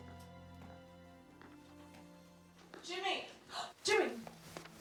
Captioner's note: gasps